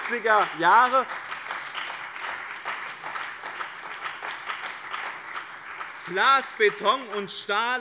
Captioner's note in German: Beifall bei dem BÜNDNIS 90/DIE GRÜNEN und der CDU